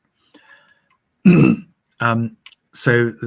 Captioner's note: clearing throat